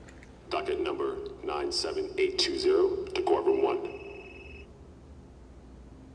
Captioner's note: loudspeaker; phone ringing